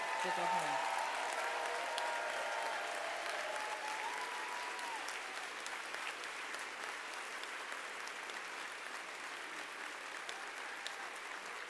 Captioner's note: applause